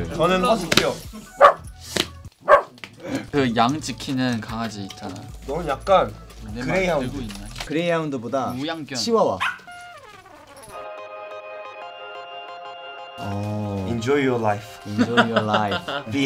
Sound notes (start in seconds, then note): 2.4 puppy barks; 10.6 soft bright music; 14.9 laughs